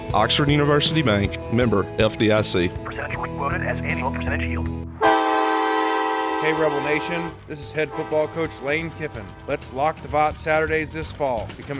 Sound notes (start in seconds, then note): 5.0 horn blowing